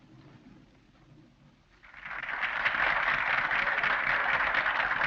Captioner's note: crowd applauds